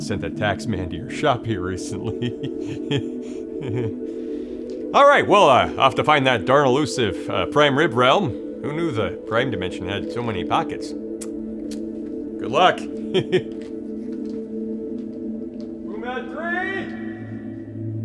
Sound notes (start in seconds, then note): 1.8 chuckles; 12.9 chuckles; 14.6 receding footsteps; 17.8 gentle music